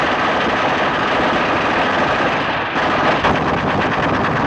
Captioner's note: gunshots continue